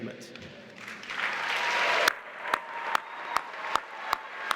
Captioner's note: applause